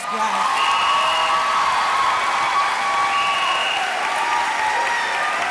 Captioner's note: cheering and clapping